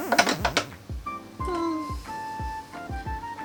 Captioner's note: sigh